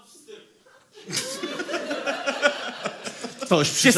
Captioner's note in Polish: śmiech